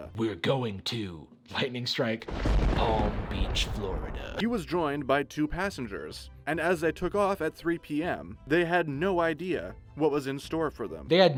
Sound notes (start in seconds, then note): 2.2 thunder clap